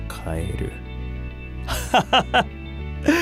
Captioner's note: laughs